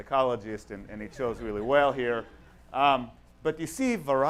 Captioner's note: audience laughs